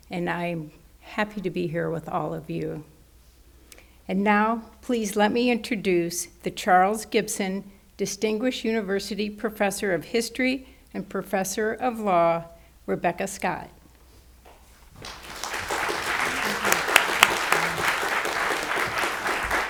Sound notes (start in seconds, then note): 14.9 audience applauds